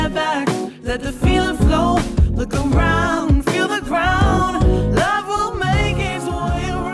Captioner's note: ahh